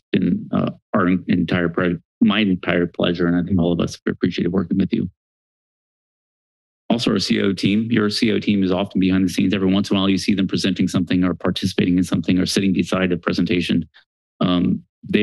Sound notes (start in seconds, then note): 5.5 silence